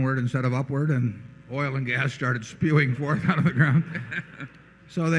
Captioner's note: laughter